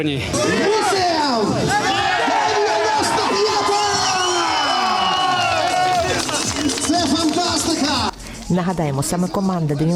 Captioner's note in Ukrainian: вигуки вболівальників